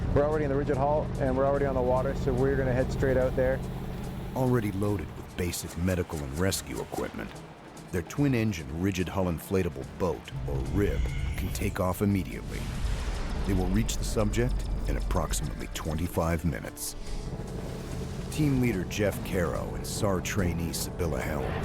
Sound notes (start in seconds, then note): 14.7 voiceover